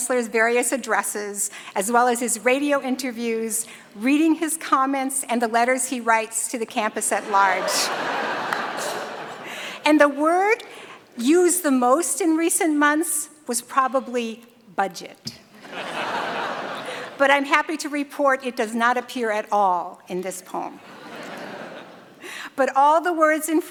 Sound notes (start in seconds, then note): 7.2 laughter; 15.6 laughter